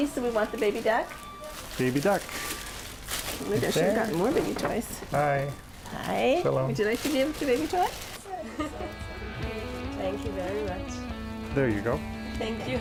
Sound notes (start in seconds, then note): 8.3 upbeat music; 8.3 giggling